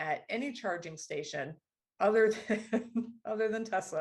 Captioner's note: laughter